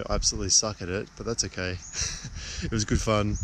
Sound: chuckling

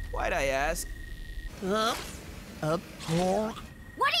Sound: retching

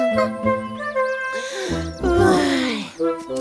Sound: sigh tiredly

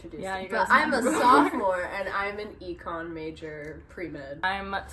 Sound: laugh

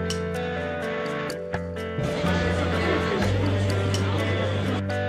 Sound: excited whispers and chatter from the audience

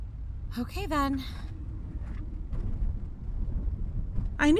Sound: car turns, road becomes bumpier

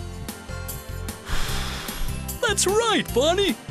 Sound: somebody blowing air

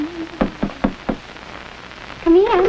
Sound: knocking

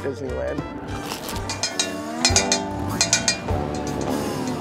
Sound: bell ringing

